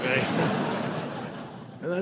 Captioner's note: laughter